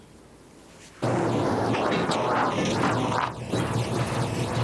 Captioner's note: car engine rumbling